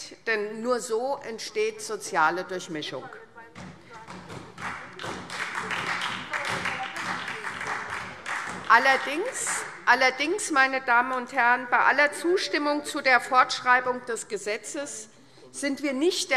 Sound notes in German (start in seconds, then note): 3.9 Beifall SPD